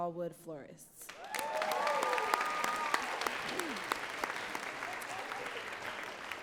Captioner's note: audience cheering and clapping